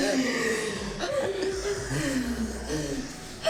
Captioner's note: Mia crying